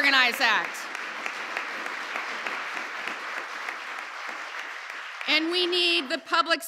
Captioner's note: applause